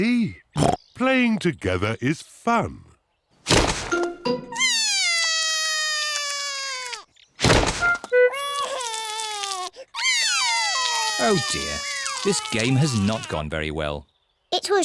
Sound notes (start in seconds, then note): 4.6 cries; 8.2 cries; 10.0 both cry